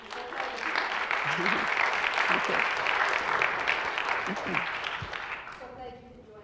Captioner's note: clapping